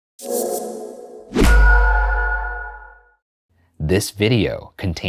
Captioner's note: little goofy spooky sound